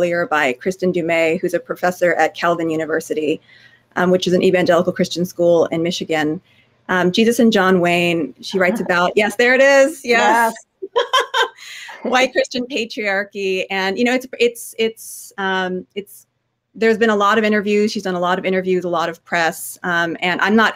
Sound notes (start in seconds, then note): 8.5 laughing